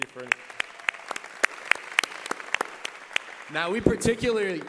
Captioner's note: applause